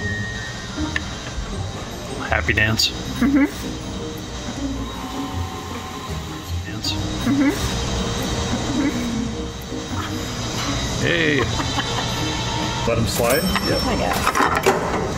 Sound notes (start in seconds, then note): 4.3 hmm-mmm